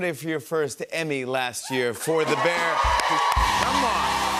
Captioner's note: cheers and applause